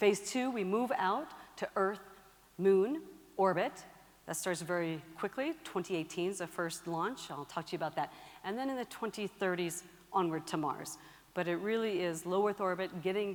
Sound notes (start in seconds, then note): none